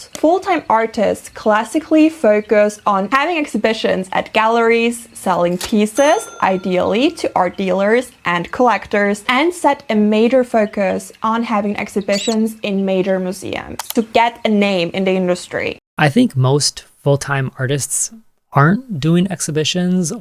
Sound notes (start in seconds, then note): 5.9 cha-ching; 12.0 rubber duck sound; 13.8 click